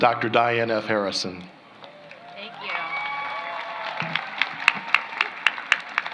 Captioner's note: applause